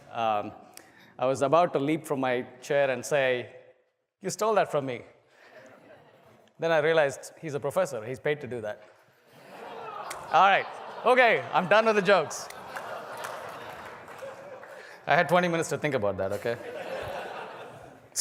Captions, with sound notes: I was about to leap from my chair and say, you stole that from me. >> [LAUGH] >> Then I realized he's a professor, he's paid to do that. >> [LAUGH] >> All right, okay, I'm done with the jokes. >> [LAUGH] [APPLAUSE] >> I had 20 minutes to think about that, okay? >> [LAUGH]